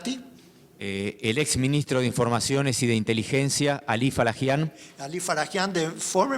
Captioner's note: speaking in foreign language